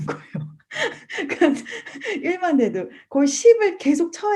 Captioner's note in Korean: 웃음